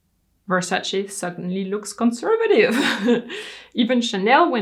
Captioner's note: laughs